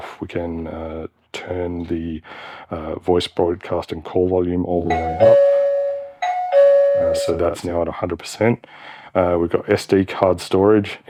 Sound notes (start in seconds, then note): 4.8 bell ringing